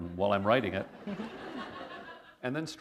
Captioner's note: laughter